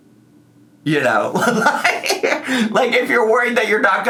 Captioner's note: laughs